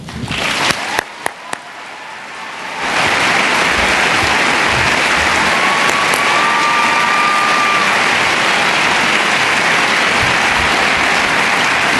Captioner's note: cheering and Applause